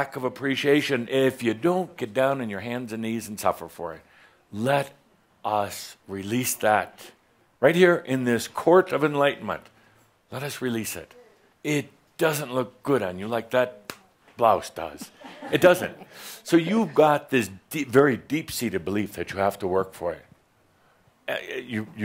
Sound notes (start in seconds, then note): 16.6 she giggles